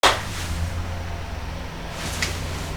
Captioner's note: claps